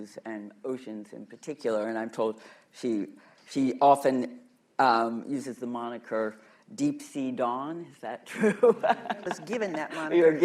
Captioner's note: laughter